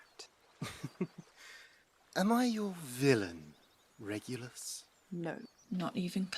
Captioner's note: Lucius lets out a dry chuckle